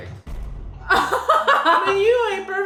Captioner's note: laughing